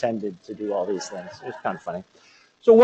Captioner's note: laughter